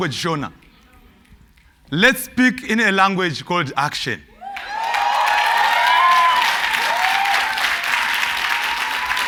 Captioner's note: cheers and Applause